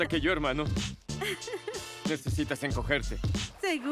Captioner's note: ríe